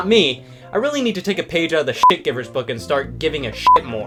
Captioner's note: beep